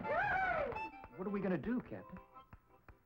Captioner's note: George shouting